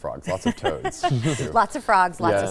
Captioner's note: laughing